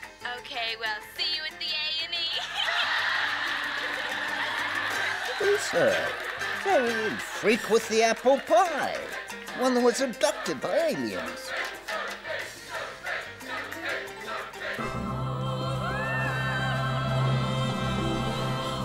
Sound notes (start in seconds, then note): 2.4 laughing; 11.1 audience chanting "Sophie"